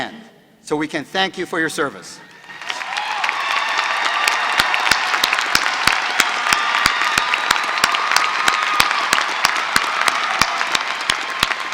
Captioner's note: applause